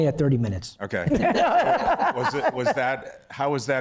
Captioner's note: laughter